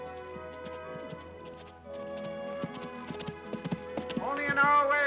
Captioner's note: hoofbeats; soft music